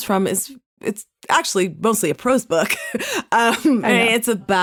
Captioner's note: laughs